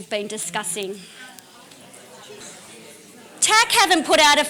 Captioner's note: audience discussion